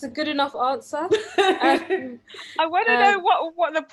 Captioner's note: laughs